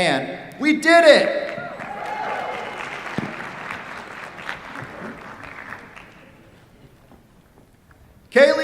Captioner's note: cheers, applause